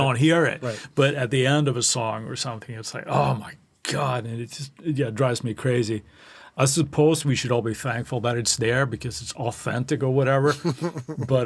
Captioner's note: laughing